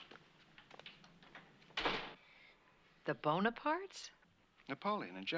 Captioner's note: door Closes